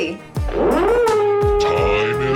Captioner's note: horn blowing